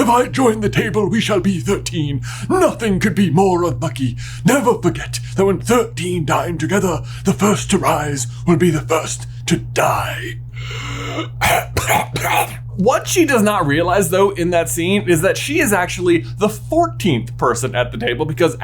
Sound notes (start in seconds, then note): 10.5 coughing and hacking